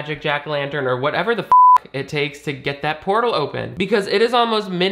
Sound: beep

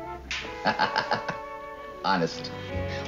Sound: chuckles

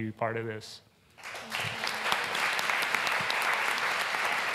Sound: applause

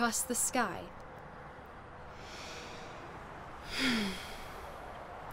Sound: breathing

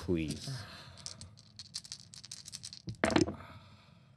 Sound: dice rattling

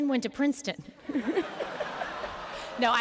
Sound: laughter

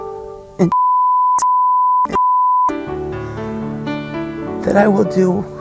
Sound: beep

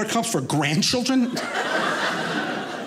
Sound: audience laughing

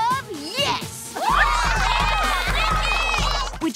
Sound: cheering

